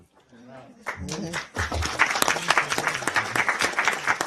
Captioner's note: reporters applaud